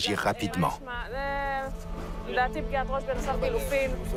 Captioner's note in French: Audio parlé en hébreu